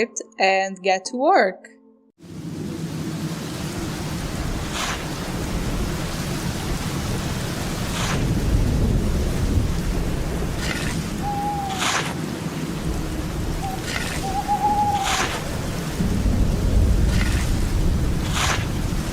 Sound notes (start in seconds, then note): 1.8 rain and digging